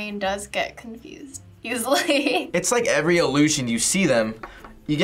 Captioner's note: laughs